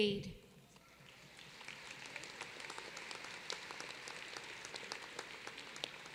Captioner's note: applause